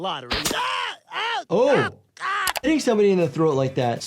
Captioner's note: Quagmire screaming